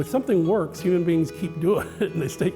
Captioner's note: laughs